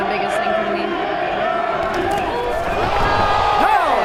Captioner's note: audience chattering